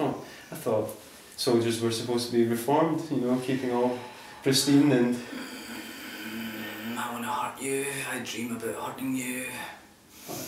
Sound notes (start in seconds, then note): 4.9 growls